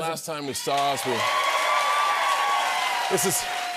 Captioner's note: cheers and applause